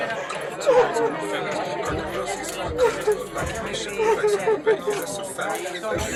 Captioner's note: hip hop music; people chattering